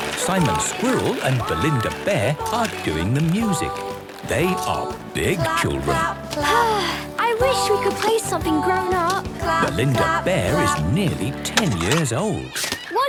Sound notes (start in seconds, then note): 6.4 Belinda sighing